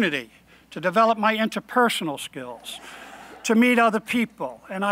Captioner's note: laughing